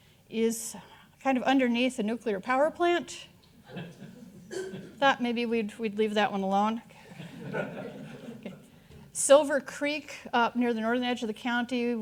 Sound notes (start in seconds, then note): 3.6 audience chuckling; 7.1 audience laughing